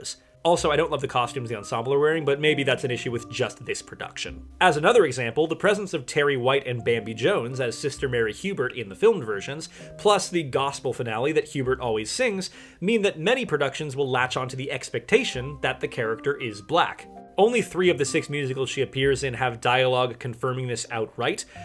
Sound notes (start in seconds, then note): none